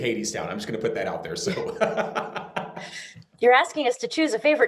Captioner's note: laughing